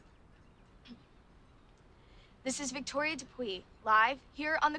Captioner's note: clears throat